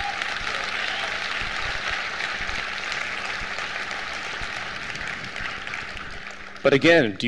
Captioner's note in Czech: potlesk